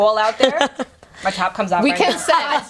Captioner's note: laughter